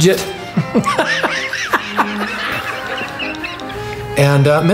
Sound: laughs loudly

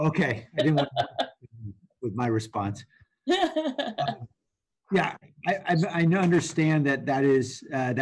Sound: laughter

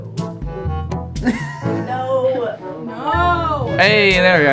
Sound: wheeze

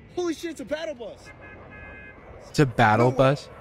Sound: Battle bus honks

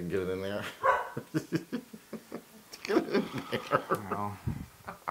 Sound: laugh

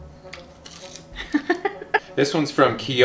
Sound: laughing

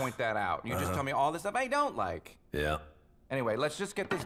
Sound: sighs

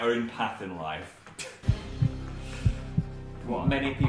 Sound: heart thumps

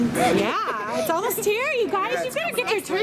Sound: laughing

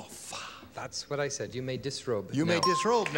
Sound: ding

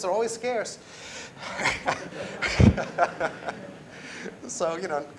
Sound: laughter

